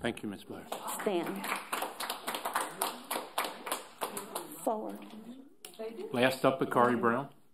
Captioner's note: applause